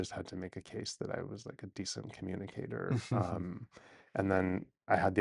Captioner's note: laughs